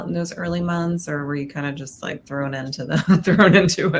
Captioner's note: chuckles